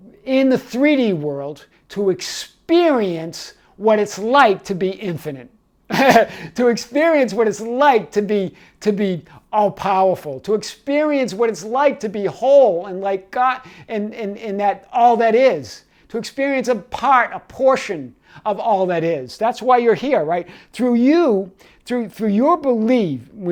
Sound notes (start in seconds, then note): 5.9 laughs